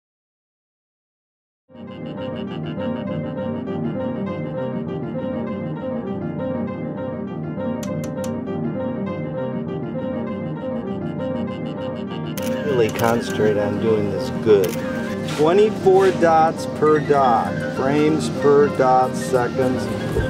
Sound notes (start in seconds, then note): 4.5 jaunty piano music; 12.4 camera clicks loudly